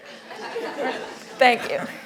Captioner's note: laughing